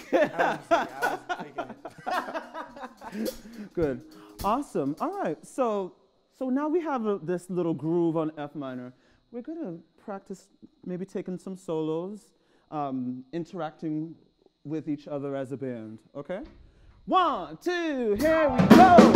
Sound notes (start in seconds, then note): 0.0 laughter